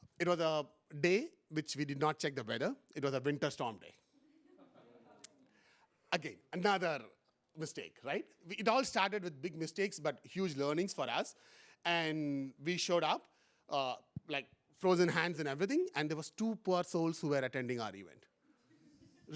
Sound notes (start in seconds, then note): 4.2 laughter